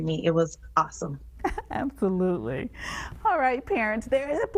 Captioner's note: laughing